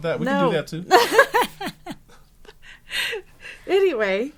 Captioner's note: laughing